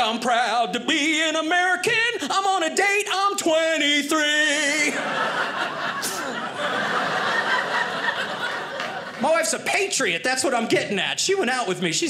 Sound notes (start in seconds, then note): 4.8 audience laughing